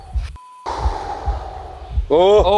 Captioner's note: beeps; exhales